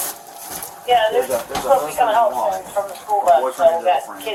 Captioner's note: radio chatter